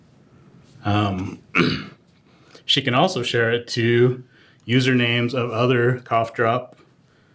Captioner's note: cough